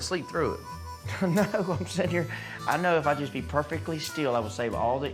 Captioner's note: chuckles